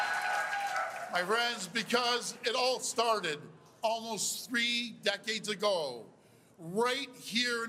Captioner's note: cheers and Applause